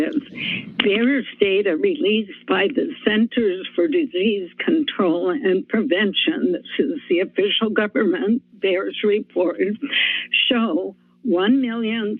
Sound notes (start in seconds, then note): 9.9 inhales